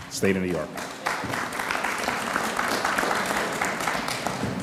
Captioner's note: audience applauds